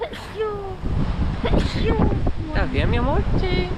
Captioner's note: sneezes